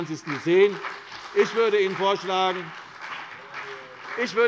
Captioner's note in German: Beifall CDU und BÜNDNIS 90/DIE GRÜNEN